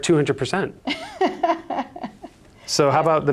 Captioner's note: laughs